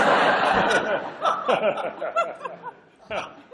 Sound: laughter

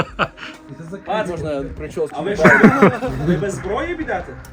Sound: laughter

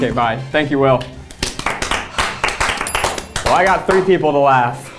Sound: bell rings; applauding

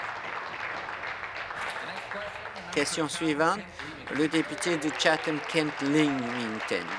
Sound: applause

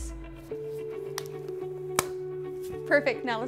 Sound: glove snaps

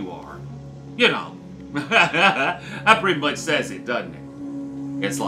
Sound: laughs

